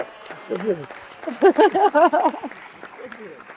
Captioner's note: audience cheering and clapping